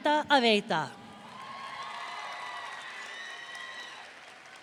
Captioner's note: audience cheering